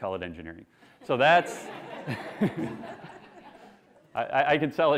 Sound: classroom laughing

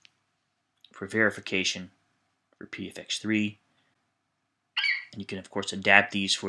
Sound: FlightCheck eagle screeches

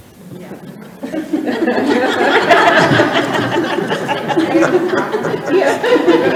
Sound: all laughing

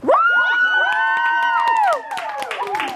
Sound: cheering

